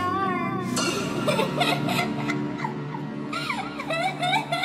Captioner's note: dramatic music; child giggles